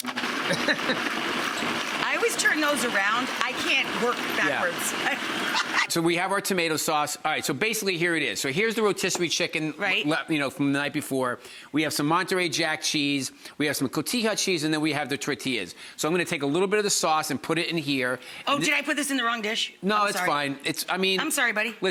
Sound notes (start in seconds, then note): 0.0 blender whirring; 0.4 Bobby chuckling; 4.9 Rachael laughing